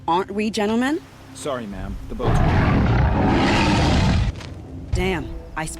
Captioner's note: roaring